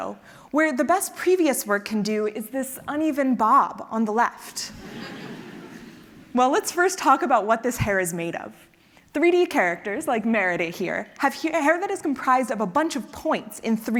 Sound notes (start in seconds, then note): 5.3 laugh